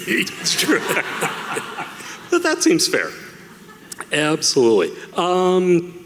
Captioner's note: laughing